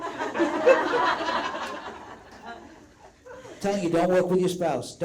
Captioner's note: all laugh out loud